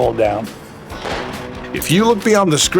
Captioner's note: gunshot